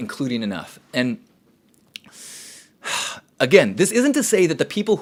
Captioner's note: sighs loudly